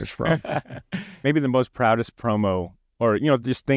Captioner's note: laughs